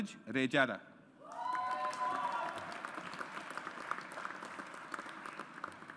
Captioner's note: audience applauds